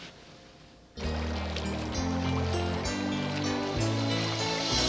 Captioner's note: water bubbling